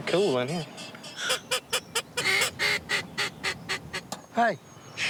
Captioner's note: blowing duck calls